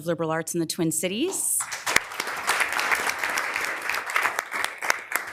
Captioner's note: members applauding